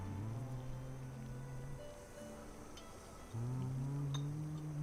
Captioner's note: men humming